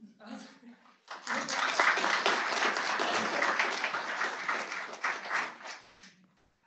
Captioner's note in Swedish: Applåder